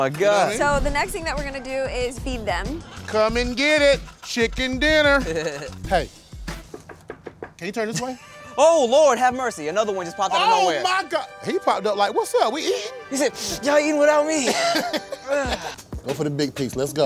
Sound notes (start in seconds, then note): 4.8 knocking; 14.4 laughing